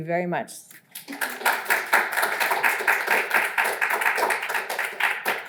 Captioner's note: audience applauds